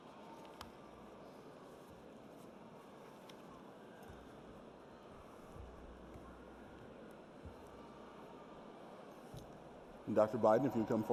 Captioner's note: shuffling papers